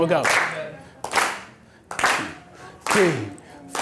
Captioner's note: clapping